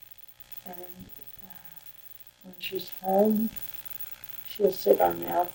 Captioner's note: sighs